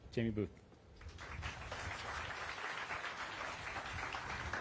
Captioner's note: applause